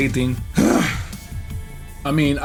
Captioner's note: sighs